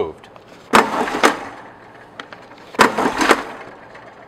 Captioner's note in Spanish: ruido metálico